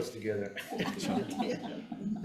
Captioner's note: chuckling